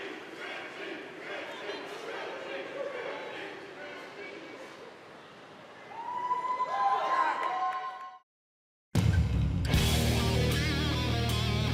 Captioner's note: crowd cheering